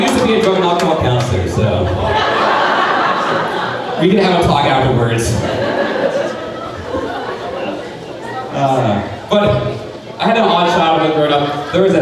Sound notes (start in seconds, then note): 1.8 crowd laughing; 5.4 crowd laughing